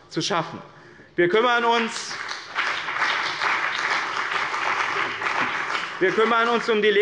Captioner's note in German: Beifall bei dem BÜNDNIS 90/DIE GRÜNEN und der CDU